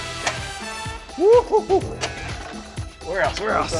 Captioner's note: cheers